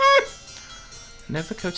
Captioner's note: laughing